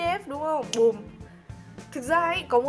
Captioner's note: snaps finger